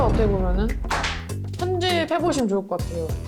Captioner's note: pen dropping sound